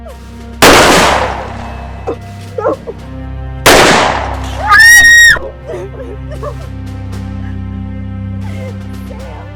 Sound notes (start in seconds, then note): 3.6 gun fires; 4.6 woman screams; 5.5 woman sobs